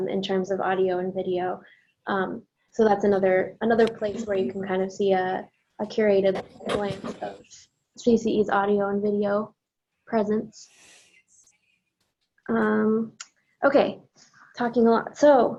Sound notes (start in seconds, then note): 6.3 audio breaks up